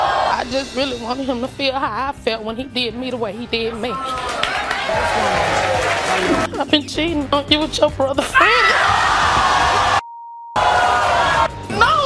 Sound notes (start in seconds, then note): 3.7 audience screaming; 8.8 audience screaming